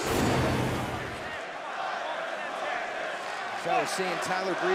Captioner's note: crowd cheering